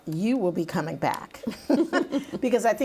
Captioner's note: laughing